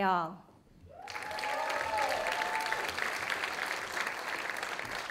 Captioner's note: audience applauding